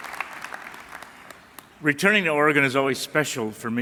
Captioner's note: applause